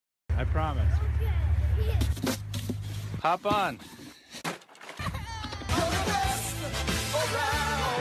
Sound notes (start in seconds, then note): 5.1 cries